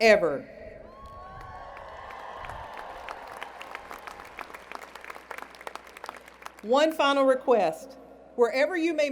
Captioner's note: cheers and Applause